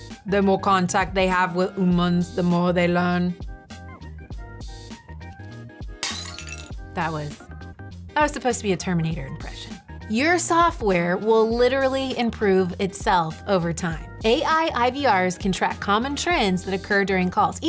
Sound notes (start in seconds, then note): 3.6 soft music; 5.9 glasses shattering